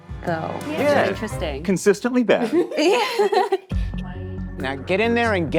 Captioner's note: all laughing